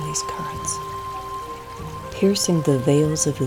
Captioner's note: sound of flowing river